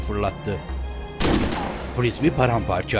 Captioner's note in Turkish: Tüfek sesi